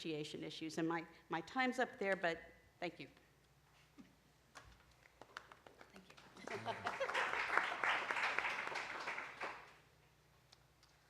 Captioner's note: applause